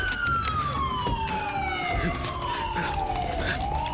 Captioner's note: sirens wailing